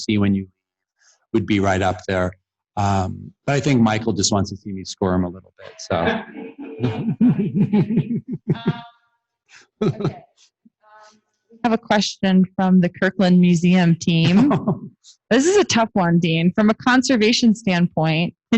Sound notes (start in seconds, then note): 8.9 laughter